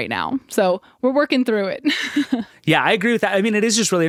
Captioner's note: laughs